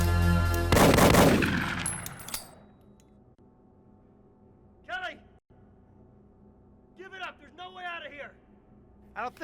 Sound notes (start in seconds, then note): 0.7 gunshots stop